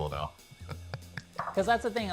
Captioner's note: laughing